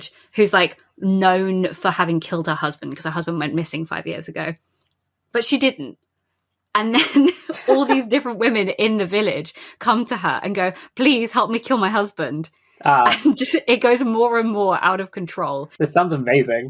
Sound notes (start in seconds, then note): 7.0 laughing